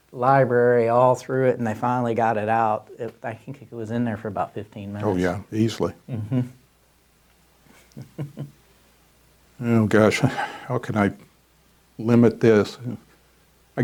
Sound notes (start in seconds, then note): 7.7 chuckling